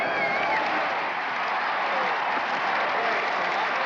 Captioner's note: crowd continues cheering